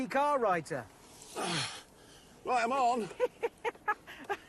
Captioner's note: grunts; richard laughs